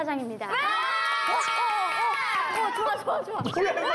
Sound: whoo!!

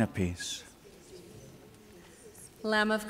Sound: congregation murmurs

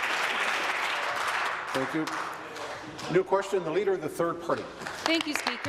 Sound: applause

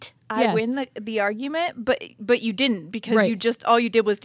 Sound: none

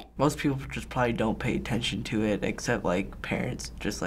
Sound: none

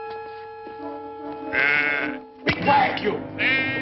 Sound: goat bleating

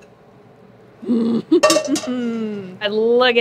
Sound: pan tapping; laughing triumphantly; pan clanging

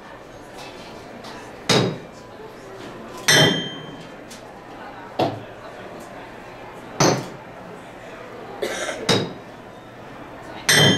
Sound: hammering sound

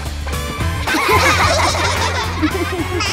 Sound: laughing

